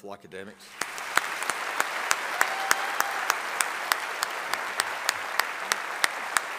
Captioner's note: audience applauding and cheering